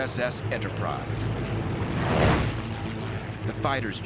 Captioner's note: planes whirring